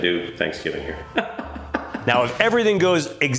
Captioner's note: laughs